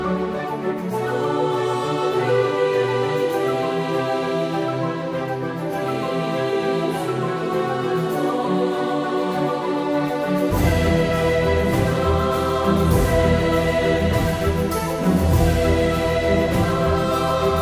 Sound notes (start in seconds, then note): none